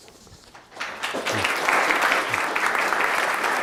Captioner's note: applause